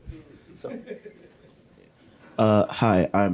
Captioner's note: laughs